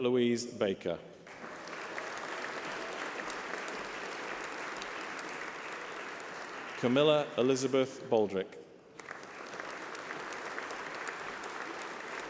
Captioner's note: applause